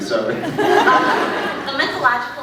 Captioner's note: laughs; scattered laughs